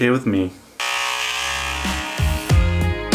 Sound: clippers buzzing

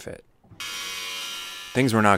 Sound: power saw humming

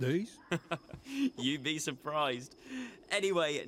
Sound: chuckles

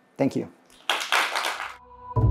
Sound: applause; audio logo

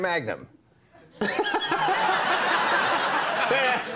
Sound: crowd laughs; Conan laughs

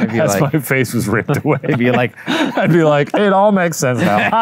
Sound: exhales

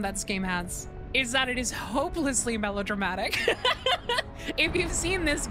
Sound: laughing

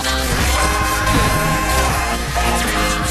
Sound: emmet screams

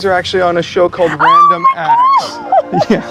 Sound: laughs; screaming

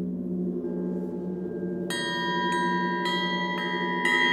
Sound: chimes

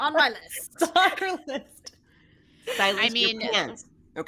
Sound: laughter

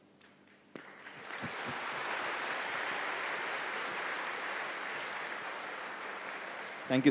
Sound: applause

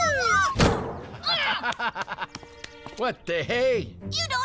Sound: laughs

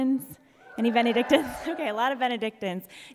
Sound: audience cheers

